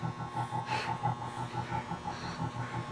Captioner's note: panting